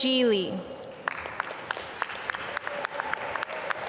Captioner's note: applause